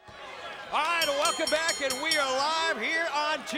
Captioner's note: bell ringing